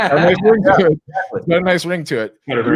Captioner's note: all laughing